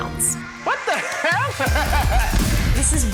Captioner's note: laughs; upbeat music